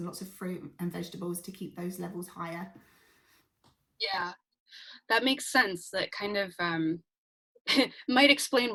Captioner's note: laughs